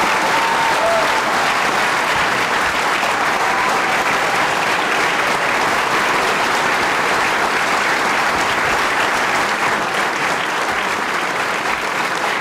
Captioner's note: applause